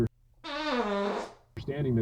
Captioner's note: squeeky fart